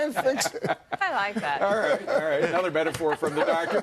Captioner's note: laughter